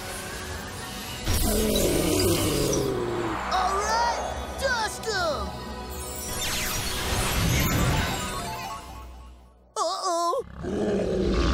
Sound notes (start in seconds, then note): 1.4 roaring; 10.4 roaring